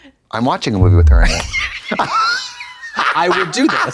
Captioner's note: blonde Women cluck